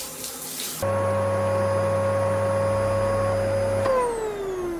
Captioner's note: water splashing; vacuum humming